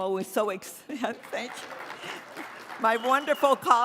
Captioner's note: audience applauds